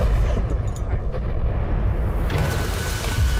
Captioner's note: booming